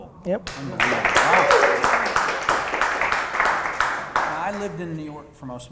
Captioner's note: audience applause